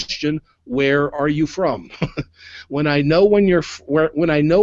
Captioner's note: chuckles